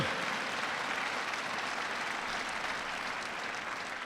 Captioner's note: audience applauds